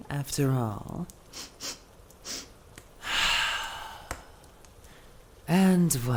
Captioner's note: deep sniff